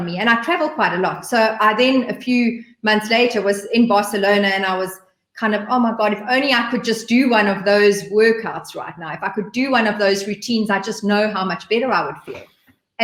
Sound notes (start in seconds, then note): none